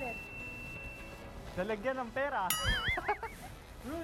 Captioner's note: laughs